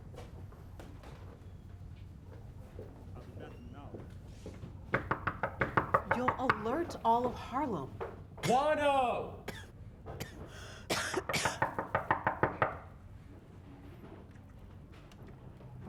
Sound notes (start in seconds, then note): 4.9 knocking; 10.1 coughing; 11.0 knocking